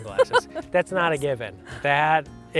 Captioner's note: chuckling